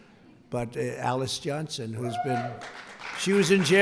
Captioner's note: applause